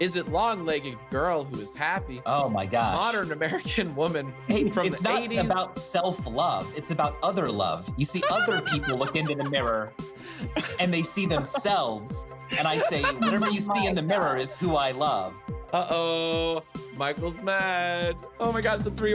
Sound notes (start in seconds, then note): 12.4 laughing